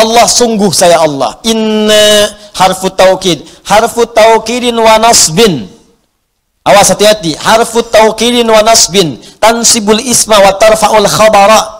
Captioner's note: arabic explaination